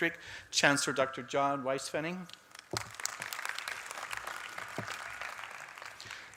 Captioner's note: applause